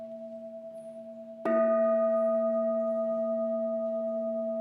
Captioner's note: gong sounds